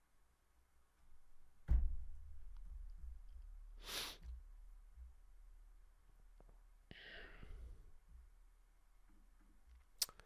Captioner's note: sniffs